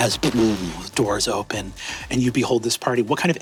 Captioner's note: mimics reverberations